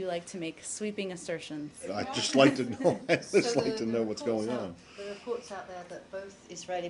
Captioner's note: laughter